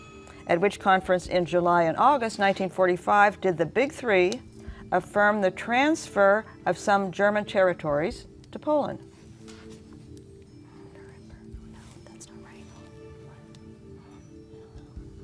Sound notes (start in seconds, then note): 10.1 whispering